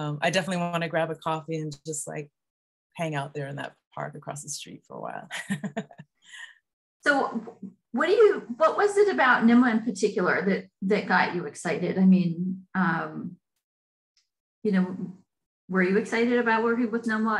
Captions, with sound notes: I definitely want to grab a coffee and just, like, hang out there in that part across the street for a while. (chuckles) So, what do you--what was it about NMWA in particular that got you excited? I mean... You know, were you excited about working with NMWA,